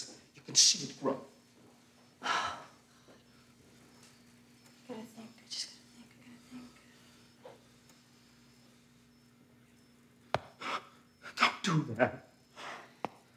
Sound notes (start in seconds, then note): 2.2 Anna sighs; 10.7 gasps